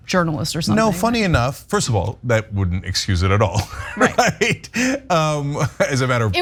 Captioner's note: laugh